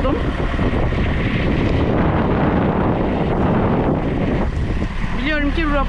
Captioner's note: wind sound